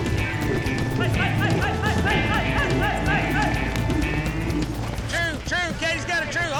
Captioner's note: hoofbeats, shouting